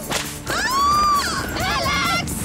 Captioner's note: scream